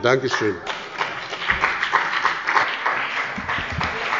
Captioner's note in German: Beifall bei dem BÜNDNIS 90/DIE GRÜNEN und der CDU